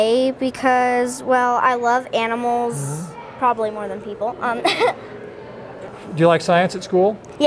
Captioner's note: giggles